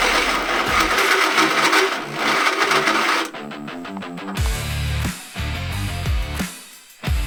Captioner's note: sound of drill spinning against metal